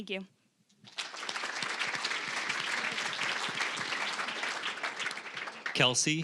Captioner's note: applause